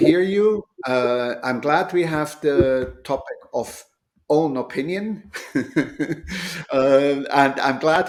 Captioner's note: chuckles